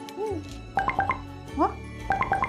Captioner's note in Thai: เสียงแจ้งเตือนข้อความ